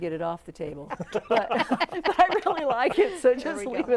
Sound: laughing

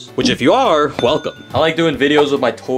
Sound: bell dings

